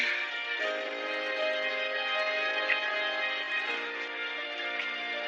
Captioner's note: applause